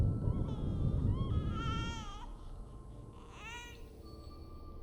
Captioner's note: baby fussing